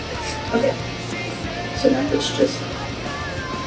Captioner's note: in normal voice